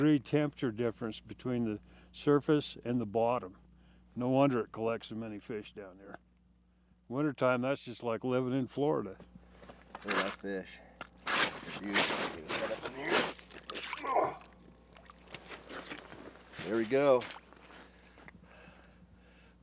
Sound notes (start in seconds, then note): 15.2 snow crunching; 18.4 groaning